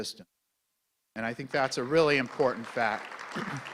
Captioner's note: clapping